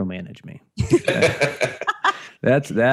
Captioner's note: laughter